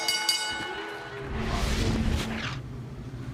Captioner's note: bell ringing